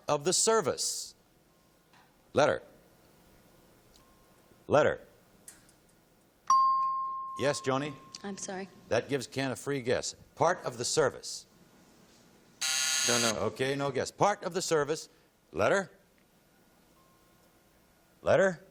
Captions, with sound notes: "Part of the service." Letter? Letter? [ping] Yes, Joni? - I'm sorry. - That gives Ken a free guess. "Part of the service." [buzz] - I don't know. - OK, no guess. "Part of the service." Letter?